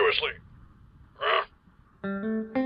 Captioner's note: ambiguous grunt